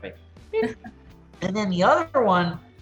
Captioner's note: laughs